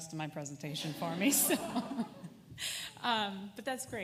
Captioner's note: laughter